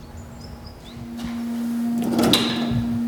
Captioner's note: birds chirping; distant whirring